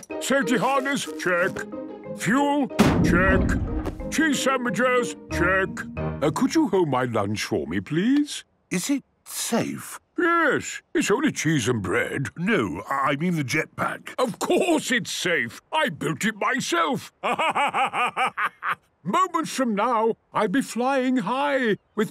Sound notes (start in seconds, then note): 2.8 bangs